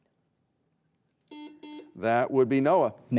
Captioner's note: buzzer buzzing